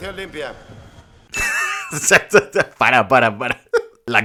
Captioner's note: laughs